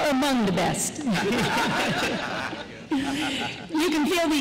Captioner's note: laughter